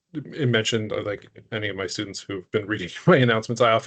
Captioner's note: chuckling